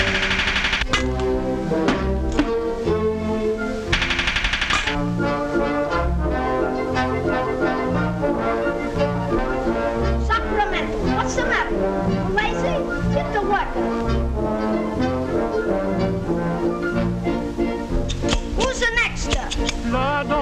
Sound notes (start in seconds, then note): 0.0 bird pecking; 6.0 jaunty classical music; 10.8 speaking foreign language